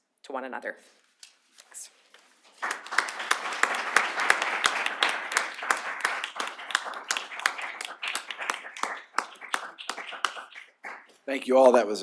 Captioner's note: applause